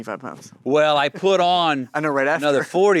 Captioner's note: Timothée chuckles